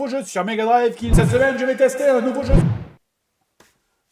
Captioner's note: echoing